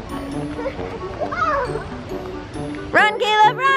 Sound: yell

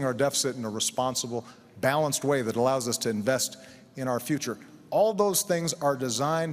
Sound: none

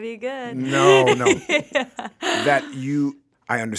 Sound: laughs

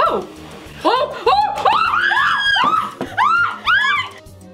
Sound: yelping

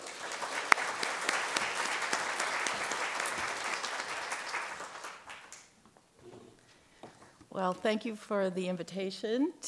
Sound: clapping

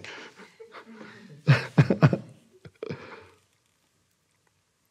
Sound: Eckhart laughs

